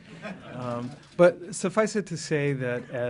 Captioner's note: laughter